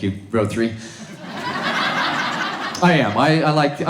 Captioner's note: audience laughs